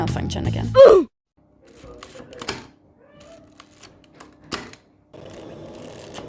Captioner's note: film winding and shutter fires